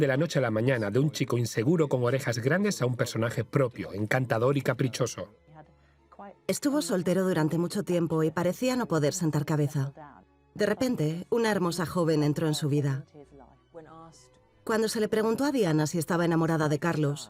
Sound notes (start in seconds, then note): 5.1 voiceover